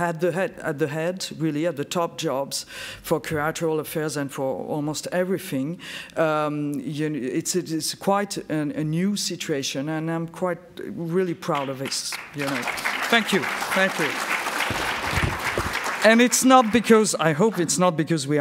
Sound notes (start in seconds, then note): 11.5 applauds